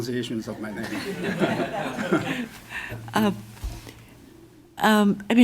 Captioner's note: laughter